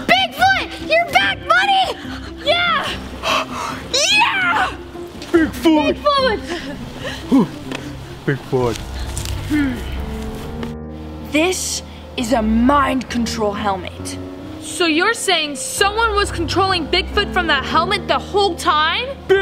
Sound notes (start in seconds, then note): 3.2 pants